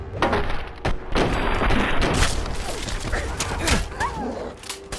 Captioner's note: gunshots boom; dog whimpers; gunshots crack